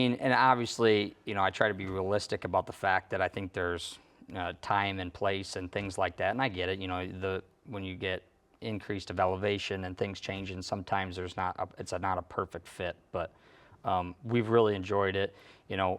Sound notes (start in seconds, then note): none